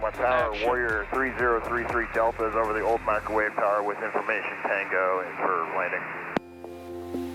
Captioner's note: radio chatter